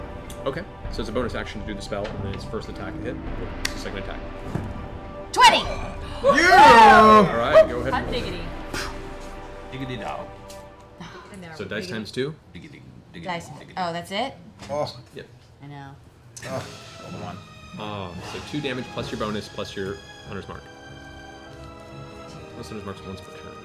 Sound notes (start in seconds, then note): 6.1 cheering